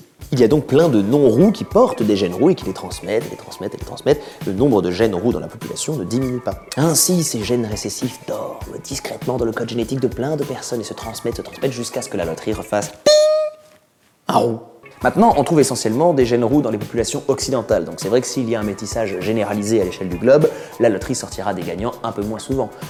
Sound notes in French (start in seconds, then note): 13.0 diiiing